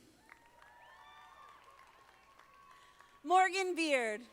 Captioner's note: audience applauding